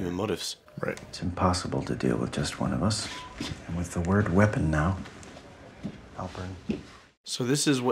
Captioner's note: phone buzzes